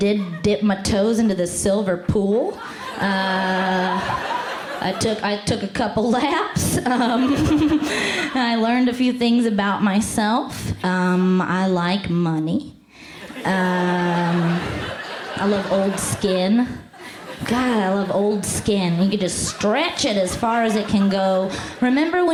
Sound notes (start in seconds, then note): 2.6 laughs; 6.9 laughs; 13.2 laughter